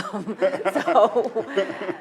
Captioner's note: laughing